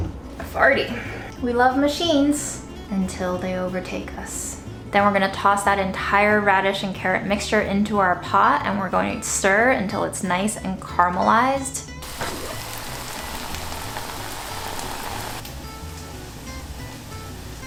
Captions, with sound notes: We love machines, until they overtake us. Then we're gonna toss that entire radish and carrot mixture into our pot. And we're going to stir until it's nice and caramelized. (sizzling sound) (country music)